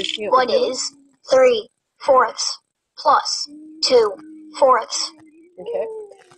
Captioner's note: voiceover